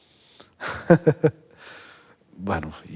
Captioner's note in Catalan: ríe